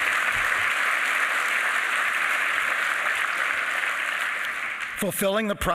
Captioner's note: applause